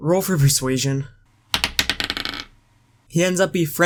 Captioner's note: die Rolling Noise